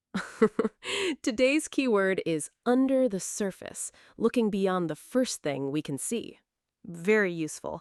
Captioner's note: chuckles